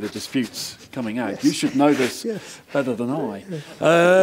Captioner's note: laugh